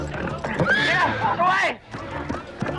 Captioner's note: horse neighs